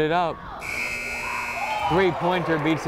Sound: buzzer blares

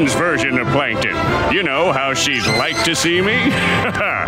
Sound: chuckles

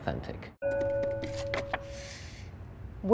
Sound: bell chimes

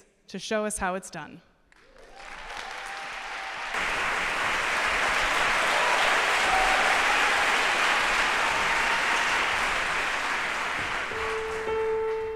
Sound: applause

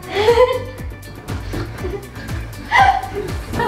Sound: giggling

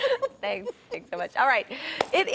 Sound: laughter

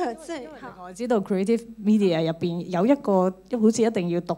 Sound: Cantonese

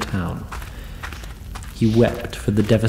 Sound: sobs quietly

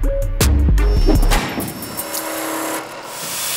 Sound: metal cutting; buzzing

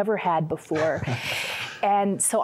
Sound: laughter

